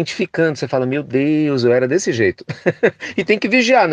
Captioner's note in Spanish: risas